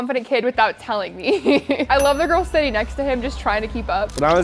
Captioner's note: laughs